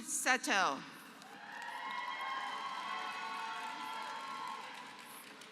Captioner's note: applause